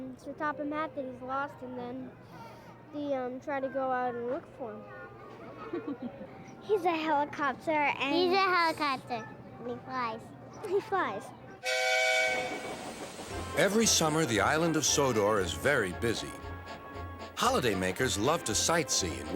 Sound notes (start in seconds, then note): 5.6 woman laughs; 11.6 engine whistles